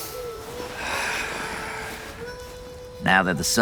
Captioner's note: sigh